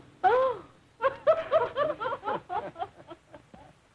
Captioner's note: laughter